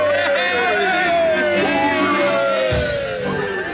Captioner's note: cheering continues